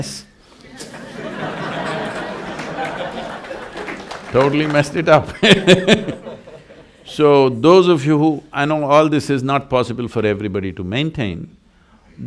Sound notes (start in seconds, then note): 0.7 laughter/Applause; 6.0 laughs